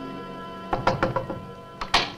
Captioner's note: knocks on door; door opens